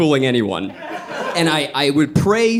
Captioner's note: audience laughing